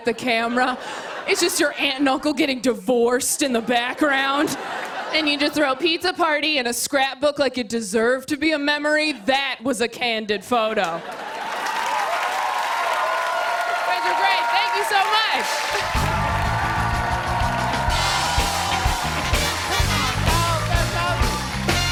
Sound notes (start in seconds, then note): 0.3 laughter; 3.5 laughter; 10.9 laughter; 11.1 cheers and applause; 15.5 cheering